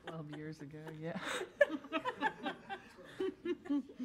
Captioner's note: board laughs